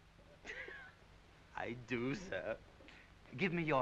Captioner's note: giggling